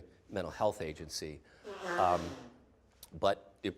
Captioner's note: someone blowing nose loudly